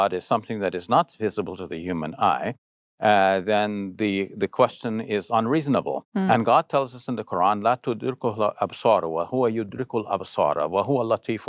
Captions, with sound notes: is something that is not visible to the human eye, then the question is unreasonable. And God tells us in the Quran, (speaking Arabic).